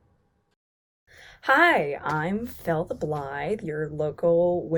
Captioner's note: none